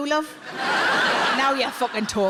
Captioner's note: audience laughs